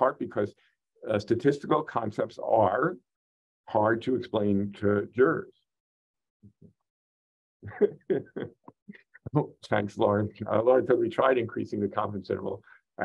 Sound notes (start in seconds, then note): 7.6 laughs